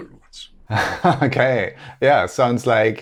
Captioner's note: laughing